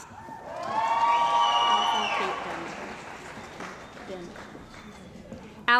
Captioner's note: cheering & Applause